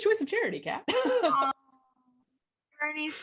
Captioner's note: laughs